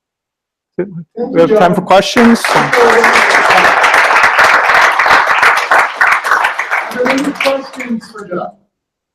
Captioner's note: applause